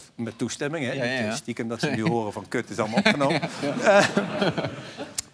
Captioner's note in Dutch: gelach